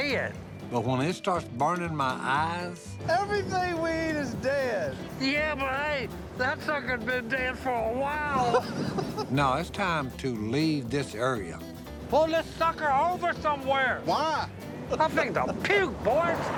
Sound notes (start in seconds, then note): 8.3 laughs